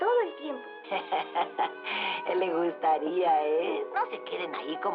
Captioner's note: chuckles